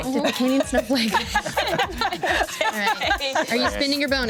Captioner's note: everyone laughs